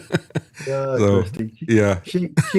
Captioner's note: laughs